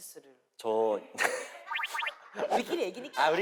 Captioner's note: cracking up